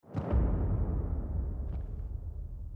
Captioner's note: thuds